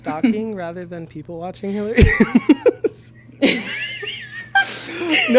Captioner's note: both laughing